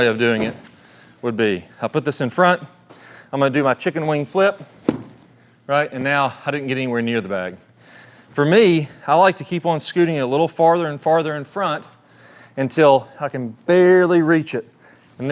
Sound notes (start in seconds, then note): 0.2 bag thudding; 4.9 club tapping